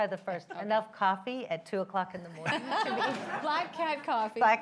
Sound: laughter

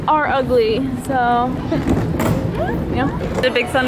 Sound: laughing

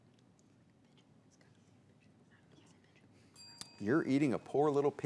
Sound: bell rings; teammates whisper

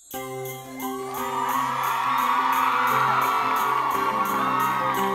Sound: instrumental music; audience cheering

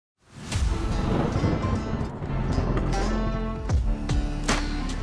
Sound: upbeat music; thunder booming

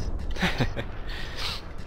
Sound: laugh

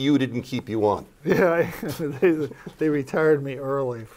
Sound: laughs

